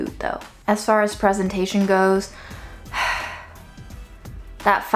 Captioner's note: sighs